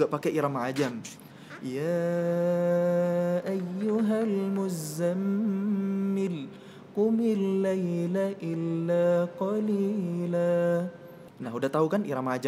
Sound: reciting quran

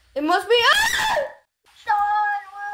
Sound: screams

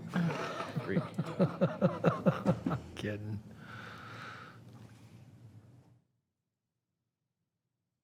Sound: laughter

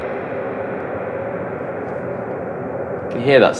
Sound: reverberation

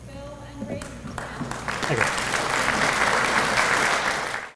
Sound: applause

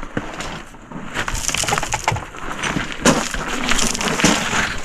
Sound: soil rustling

